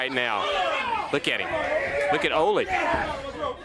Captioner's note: crowd chatter